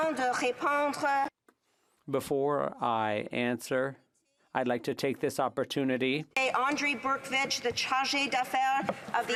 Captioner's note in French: voix de l'interprète